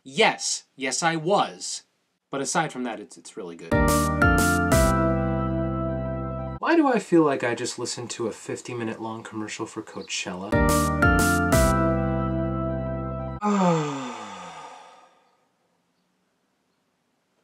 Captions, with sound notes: Yes, yes I was. But aside from that, it's really good. (upbeat music plays) Why do I feel like - I just listened to a 15 minute long commercial for Coachella? (upbeat music plays) (sighs)